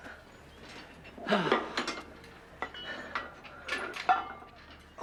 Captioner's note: Tom sighs